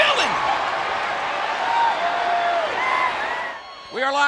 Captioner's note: crowd cheering